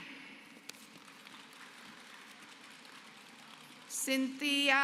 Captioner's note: applause